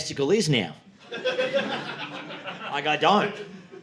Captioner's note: audience laughing